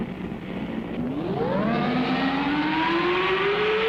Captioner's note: alarm wailing